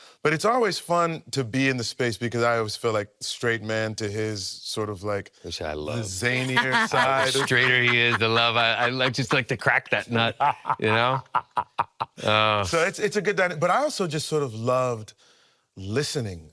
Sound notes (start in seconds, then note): 9.8 laughing